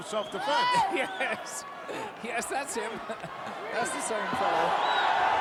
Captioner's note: laugh